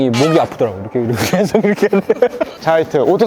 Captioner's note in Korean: 웃음